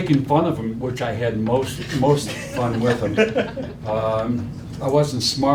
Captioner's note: laughing